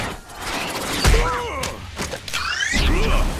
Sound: grunting

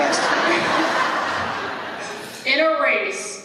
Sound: laughter

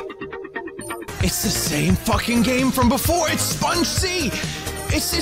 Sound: normal Voice

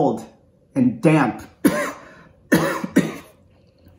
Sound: coughs

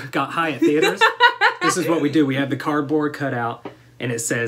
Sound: laughter

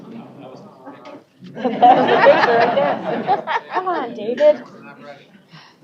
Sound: laughter

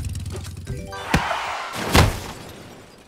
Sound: thud

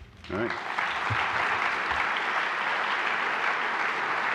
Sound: applause

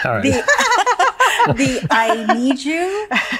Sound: all laughing

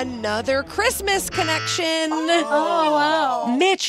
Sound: buzzing

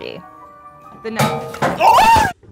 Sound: metal banging; all screaming

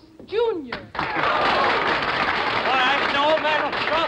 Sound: applause

